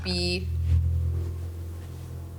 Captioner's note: ominous sound